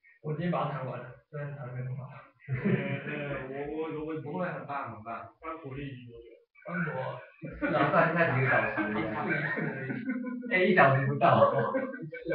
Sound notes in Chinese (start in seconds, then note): 2.4 笑聲